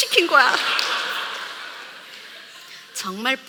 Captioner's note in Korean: 웃음